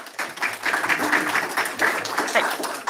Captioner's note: applause